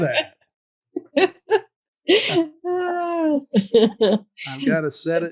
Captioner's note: laughs